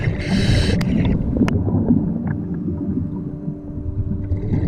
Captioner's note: water gurgling